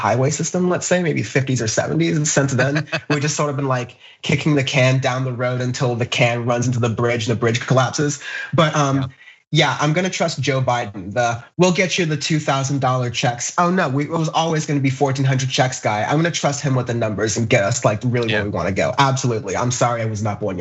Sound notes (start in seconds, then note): 2.1 laugh